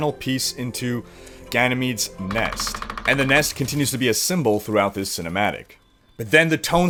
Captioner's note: woodpecker